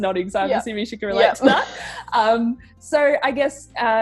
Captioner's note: chuckles